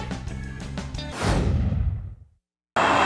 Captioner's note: whoosh